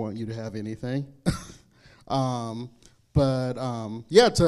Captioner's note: laughs